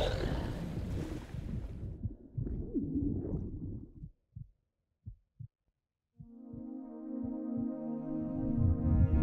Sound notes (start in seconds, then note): 0.6 heartbeat pounding; 1.6 soft music